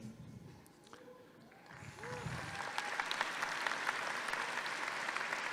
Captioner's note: audience clapping